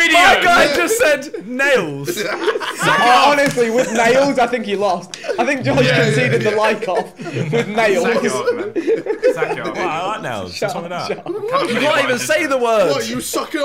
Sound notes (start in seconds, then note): 8.2 laughing